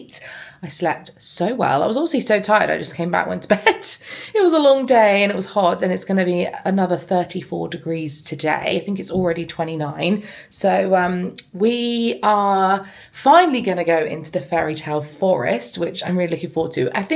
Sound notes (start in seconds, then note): 4.0 laughing